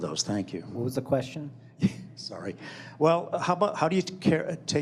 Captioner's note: laughs